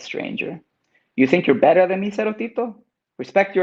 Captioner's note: speaks in Spanish